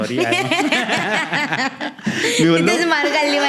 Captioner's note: laughing